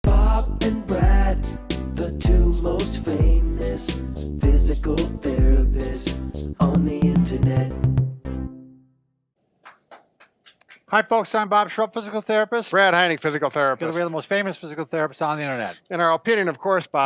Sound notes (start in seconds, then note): 9.6 clapping hands